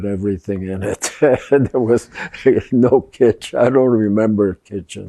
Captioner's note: laughing